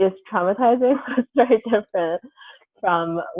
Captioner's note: laughs